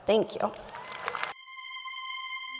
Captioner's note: audience applauding; ethereal synthesizer music